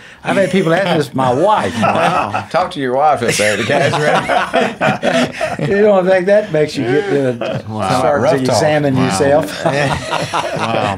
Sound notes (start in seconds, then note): 3.2 laughing